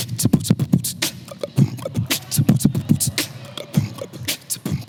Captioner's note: beatboxes